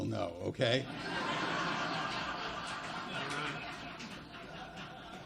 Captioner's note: audience laughs loudly